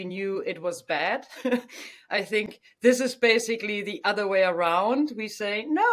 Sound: laughs

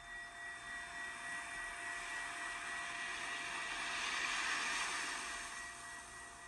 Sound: wave sound

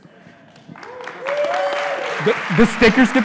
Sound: audience applauding

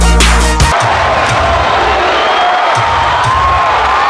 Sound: cheering

